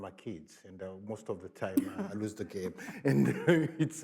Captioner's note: laughs